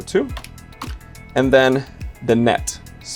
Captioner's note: keys click